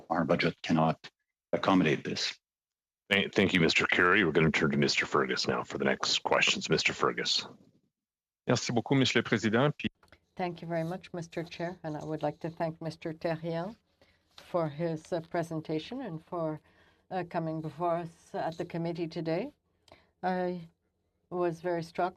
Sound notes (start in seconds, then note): 14.0 speaking french